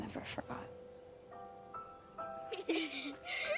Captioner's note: girls giggling